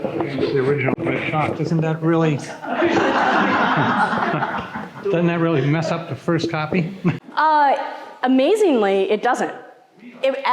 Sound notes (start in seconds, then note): 2.6 audience laughing